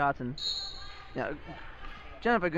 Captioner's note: whistle blows